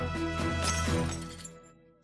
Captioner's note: crash